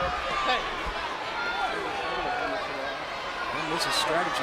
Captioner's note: crowd yelling